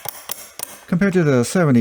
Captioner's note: coarse ratchet clicks